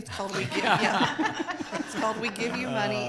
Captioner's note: everyone laughs